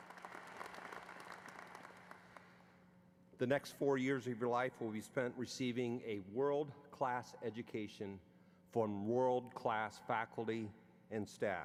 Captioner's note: applause